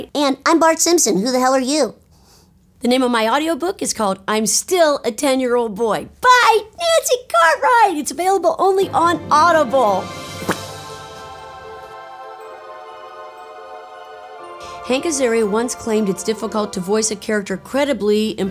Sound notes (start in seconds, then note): 10.4 Nancy pops mouth; 11.1 sweeping music